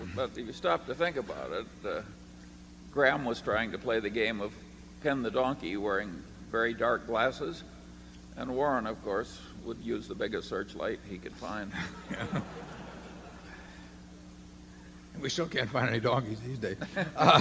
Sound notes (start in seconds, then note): 11.7 laughter